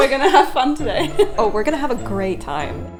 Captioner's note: laughing